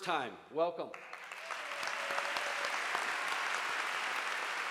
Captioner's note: audience applauding